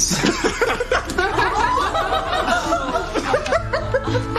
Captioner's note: Râsete